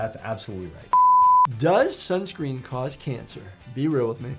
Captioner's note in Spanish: pitidos de transmisión